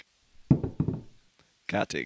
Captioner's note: bottle tips over